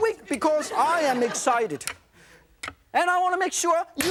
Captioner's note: laughter